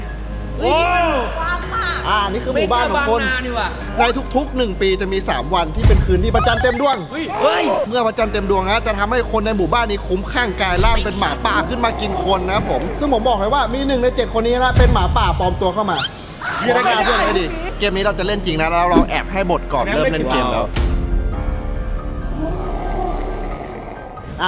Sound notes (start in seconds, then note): 16.7 yelling